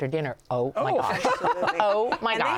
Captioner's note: laughter